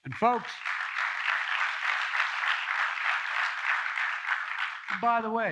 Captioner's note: applause